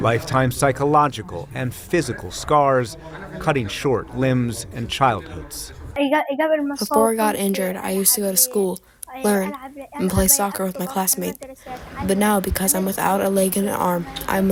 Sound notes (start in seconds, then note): 7.6 through translator